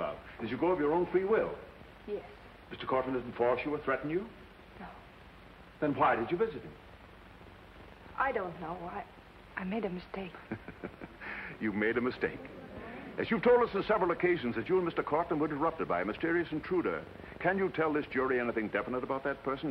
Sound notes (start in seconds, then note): 10.4 chuckles